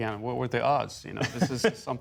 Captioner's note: laughter